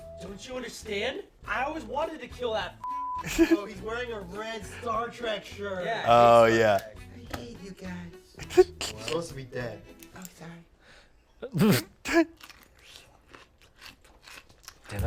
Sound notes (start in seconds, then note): 2.8 beep; 11.4 laugh